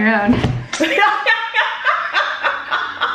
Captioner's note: laughing